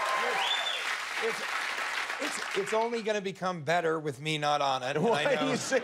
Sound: cheers and applause

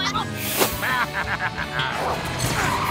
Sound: laughing

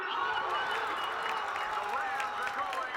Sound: all shouting

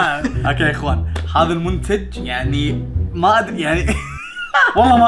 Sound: laughs

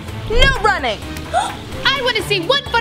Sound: gasp

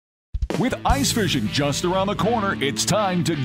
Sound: voiceover

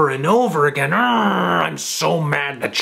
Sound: grunts

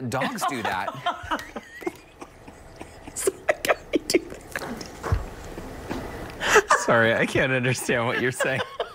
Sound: laughter

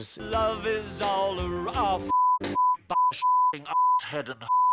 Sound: beeeeeeeeeeeeeeeep

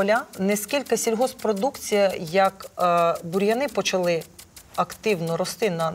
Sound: water sprinklers whirring

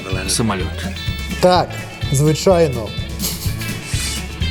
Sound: giggle

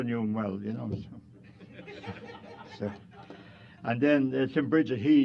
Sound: laughter

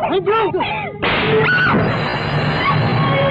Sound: slaps; screams

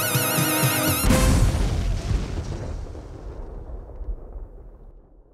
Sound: explosion booming

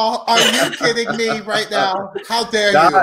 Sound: laugh

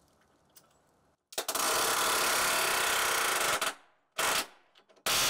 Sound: air wrench grating

